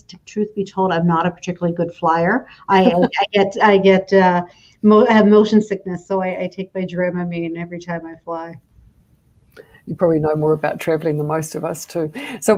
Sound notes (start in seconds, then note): 2.8 laughter